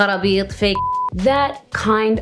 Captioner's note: foreign language; beep